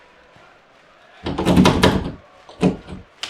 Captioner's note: jiggling door knob